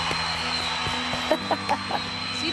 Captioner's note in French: applaudissements et sifflements; rire